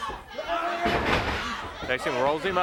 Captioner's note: body thudding